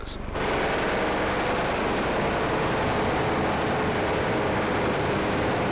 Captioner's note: guns firing; engines rumbling